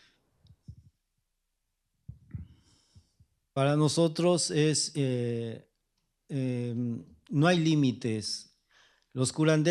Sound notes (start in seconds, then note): 4.7 speaking spanish